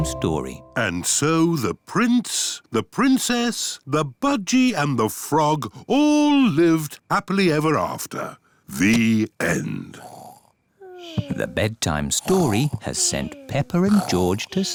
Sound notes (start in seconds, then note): 10.0 both snore